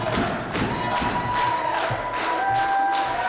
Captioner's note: applause